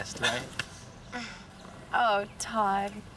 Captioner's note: scoffs